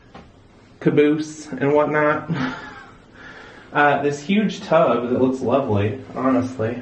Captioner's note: laugh